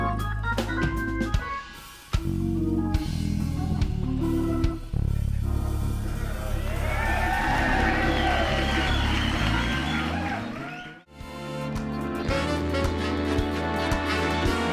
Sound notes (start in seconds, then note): 0.2 groovy music continues; 7.7 audience cheering and applauding; 11.5 lively music